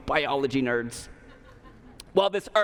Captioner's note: laughter